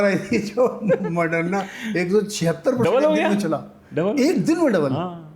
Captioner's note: laughs